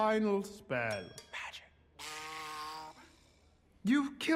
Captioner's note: buzz